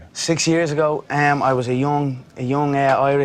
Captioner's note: none